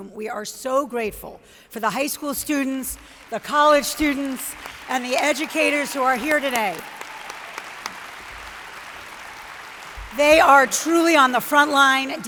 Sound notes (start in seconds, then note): 7.3 audience applauds